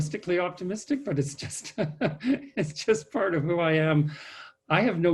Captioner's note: laughs